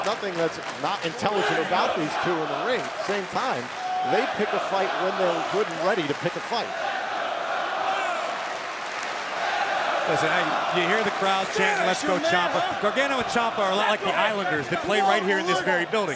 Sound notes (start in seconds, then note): 7.3 crowd cheering